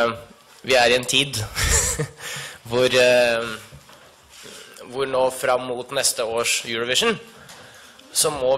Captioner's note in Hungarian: nevetve